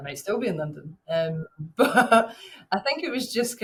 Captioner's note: chuckles